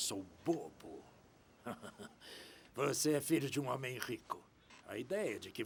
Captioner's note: chuckling